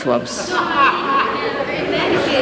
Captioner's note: laughter